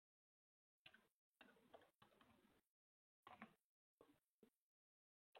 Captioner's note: computer keys clicking